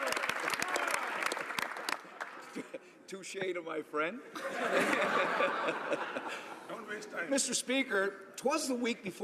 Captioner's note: applause